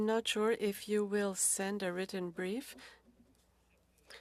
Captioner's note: speaking French